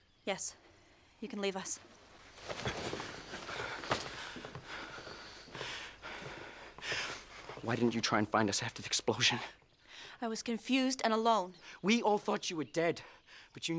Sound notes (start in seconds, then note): none